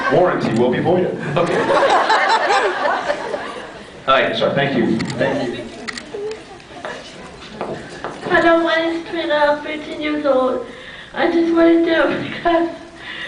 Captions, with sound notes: Warranty will be voided. [scattered laughs] Ok. [scattered laughs] [scattered laughs] Hi. Sorry, thank you. Thank you. Thank you. Hello, my name’s Trina, I’m thirteen years old. I just want to know if you guys --